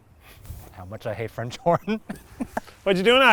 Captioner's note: laughs